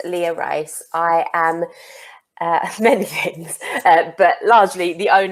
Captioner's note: chuckles